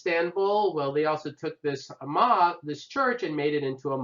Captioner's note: non-english speech